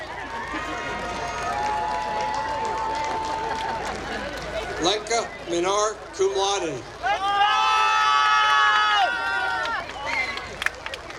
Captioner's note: applause